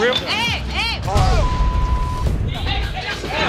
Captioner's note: beep